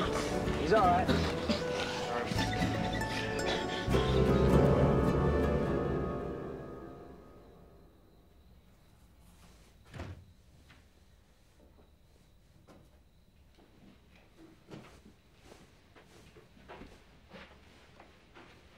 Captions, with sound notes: He's all right. (door rattles)